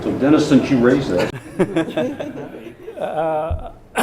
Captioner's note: laughter